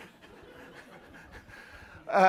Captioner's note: laughter